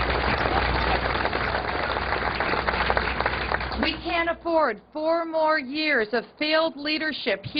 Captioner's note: applause